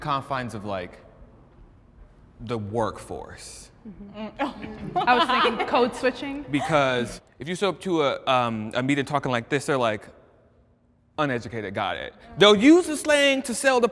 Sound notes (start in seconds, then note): 4.4 participants laughing